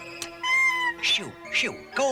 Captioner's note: squawk